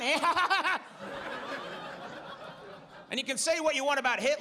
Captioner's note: audience laughs